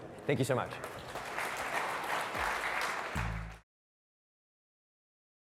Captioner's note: applause